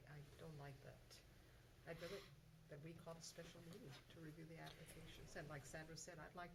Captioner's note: none